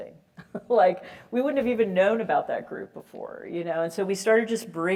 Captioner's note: laugh